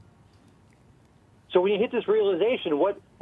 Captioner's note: voiceover